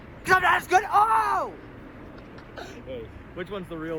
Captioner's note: chuckles